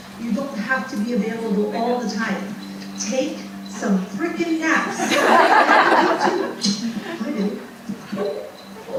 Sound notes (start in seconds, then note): 4.9 audience laughing